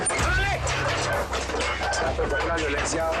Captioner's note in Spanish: Ruidos al abrir la puerta